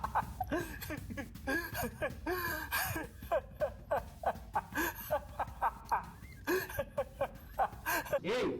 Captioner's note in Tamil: சிரிப்பு